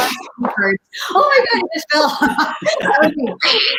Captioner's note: laughs